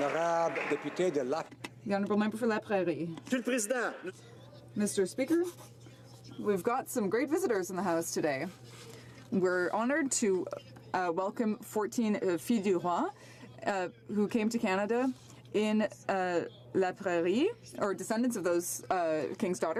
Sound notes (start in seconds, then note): 0.0 some Applause; 16.8 speaking French